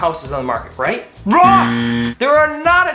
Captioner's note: buzz